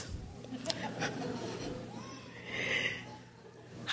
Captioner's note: crowd laughs